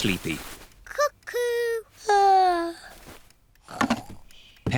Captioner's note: yawns